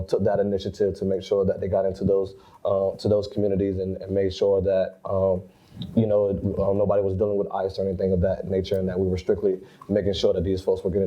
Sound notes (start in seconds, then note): none